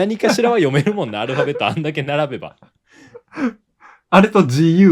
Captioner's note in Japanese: 笑い; 息をのむ音